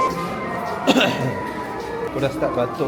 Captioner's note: cough